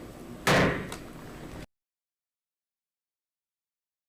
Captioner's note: gavel bangs